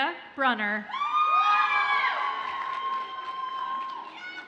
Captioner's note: audience cheers and applauds